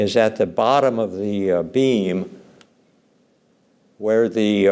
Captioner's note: none